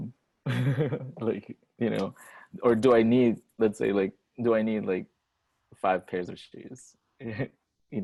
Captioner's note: laughs